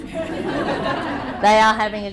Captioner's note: laughter